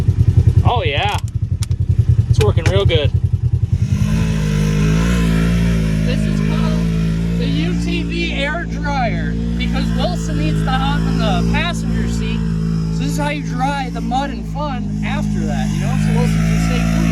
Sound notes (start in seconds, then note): 4.1 ATV engine roaring